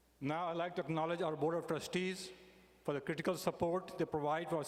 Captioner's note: none